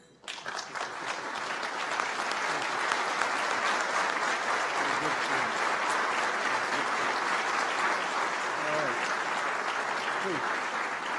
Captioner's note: applause